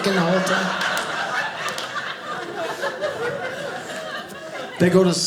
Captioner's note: audience laughing